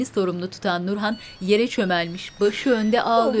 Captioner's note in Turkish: Telefon zili